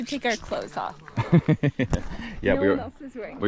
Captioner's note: chuckles